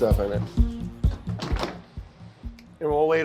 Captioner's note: doors close